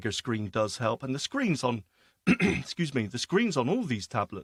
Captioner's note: clears throat